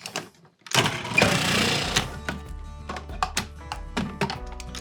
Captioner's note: food processor whirs